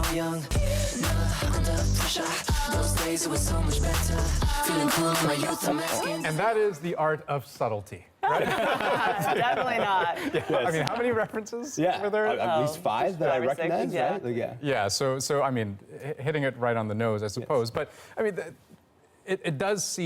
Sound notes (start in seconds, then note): 11.5 laughter